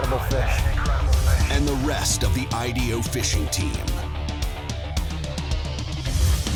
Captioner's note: voiceover